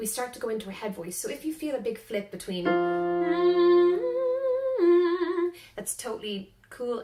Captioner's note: humming